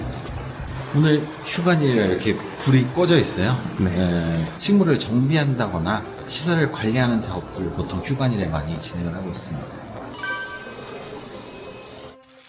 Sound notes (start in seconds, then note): 10.1 ding sound effect